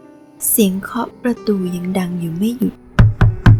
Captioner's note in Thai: เสียงเคาะประตู